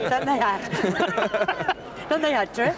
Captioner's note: she laughs